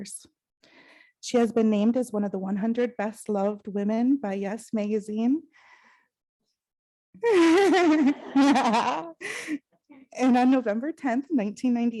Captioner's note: laughs